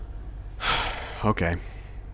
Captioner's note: sighs